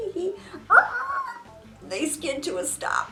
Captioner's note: imitates squeaking